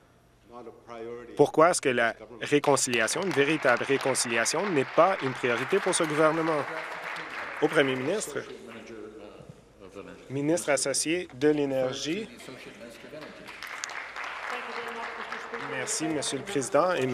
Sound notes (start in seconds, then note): 5.8 applause